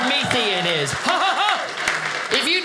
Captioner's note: audience clapping